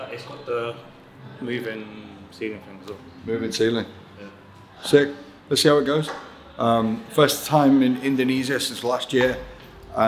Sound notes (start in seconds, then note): none